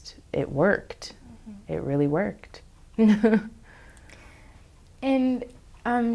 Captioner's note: laughs